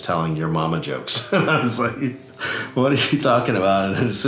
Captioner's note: laughs